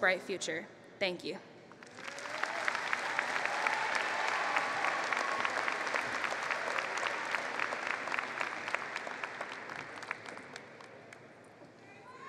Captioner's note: applause